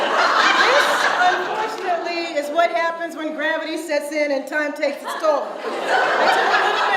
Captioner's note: audience laughs; audience laughs